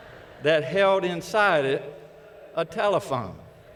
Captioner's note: laughter